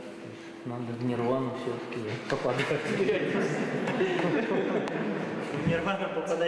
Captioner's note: laughing